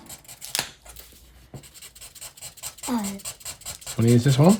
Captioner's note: sketching sound